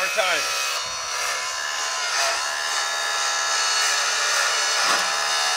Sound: track hoe buzzing

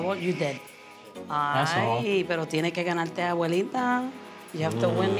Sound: speaking in Spanish

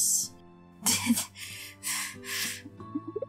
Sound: laughter

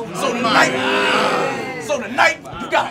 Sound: audience yells

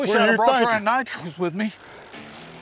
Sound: reeling noises

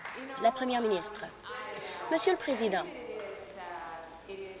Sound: applause

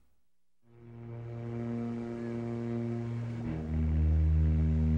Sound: plane engine revs

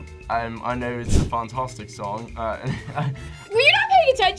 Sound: laughs

